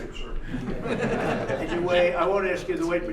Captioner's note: laughter